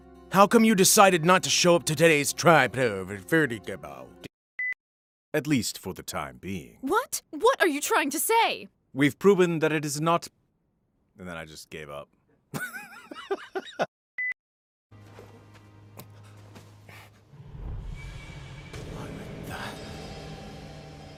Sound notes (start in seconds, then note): 12.5 laughter